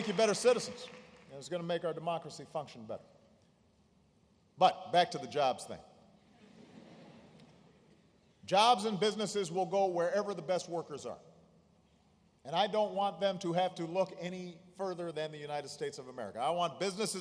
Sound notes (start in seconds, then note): 6.3 laughter